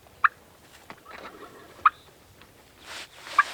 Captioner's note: turkey call; distant turkey gobbling; turkey call